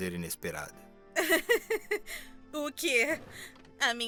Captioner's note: sarah laughs